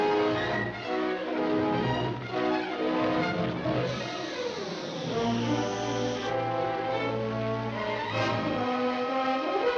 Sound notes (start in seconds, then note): 0.0 dramatic music; 3.9 fuse hissing; 6.2 dramatic music